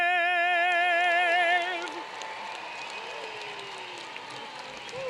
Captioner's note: applause